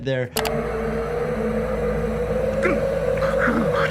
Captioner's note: wind rustling